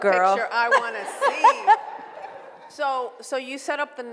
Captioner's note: laughs